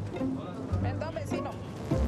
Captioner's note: Spanish spoken audio